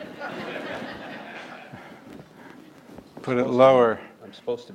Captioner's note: audience laugh